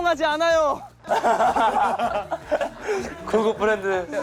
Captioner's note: burst out in laughter at their acute analysis